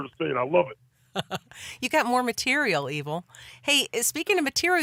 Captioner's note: laughs